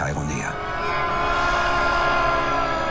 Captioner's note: screams